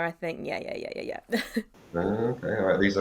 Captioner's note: laughs